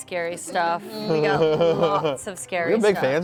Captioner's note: laughs